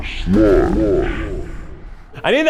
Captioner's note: repeated with low voice effect